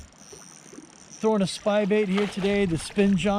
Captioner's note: reel cranking